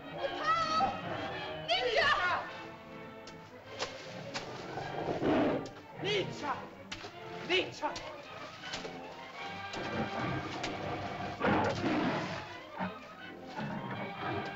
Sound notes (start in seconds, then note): 1.6 Loana shouts at Tumak; 1.6 water splashes; 4.5 dinosaur growls; 5.9 water splashes; 9.7 dinosaur growls; 11.3 water splashes